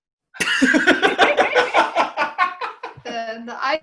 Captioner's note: HARPER and LEO laugh